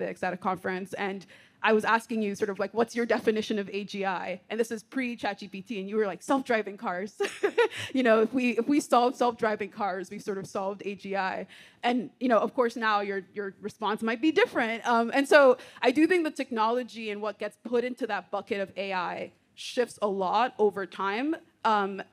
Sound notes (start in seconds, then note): 7.3 laughing